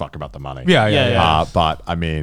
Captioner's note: affirmative murmuring